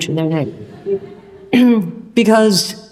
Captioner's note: audience laughs